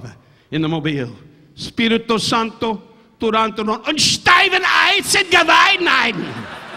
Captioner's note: Don speaking in foreign language; audience laughing